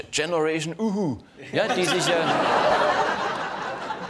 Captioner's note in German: Lachen im Publikum